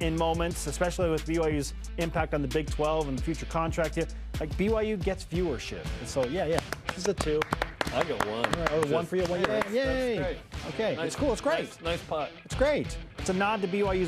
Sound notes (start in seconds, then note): 9.9 crowd cheers and applause